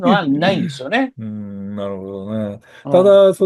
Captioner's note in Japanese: 咳払い